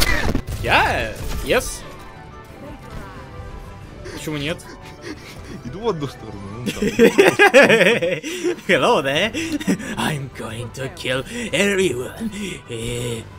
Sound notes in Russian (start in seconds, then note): 4.0 задыхаясь от смеха; 6.6 громкий смех